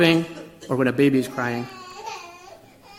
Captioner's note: baby crying